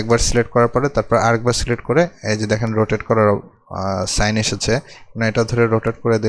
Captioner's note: left click; left click